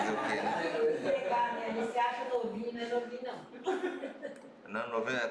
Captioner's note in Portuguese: risos; risos